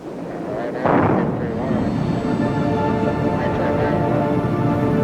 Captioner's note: engine booming drowns out voice; solemn music